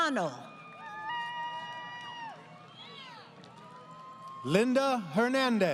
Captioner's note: crowd Cheering